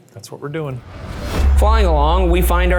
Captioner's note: air whooshing